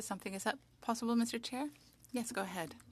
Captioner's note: speaking French